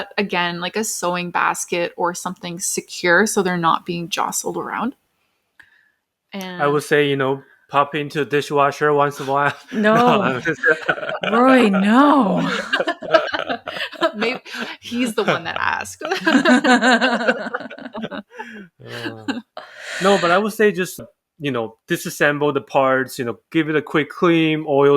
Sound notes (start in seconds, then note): 18.8 laughs